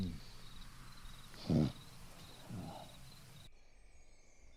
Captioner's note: owl hoots; Dave groans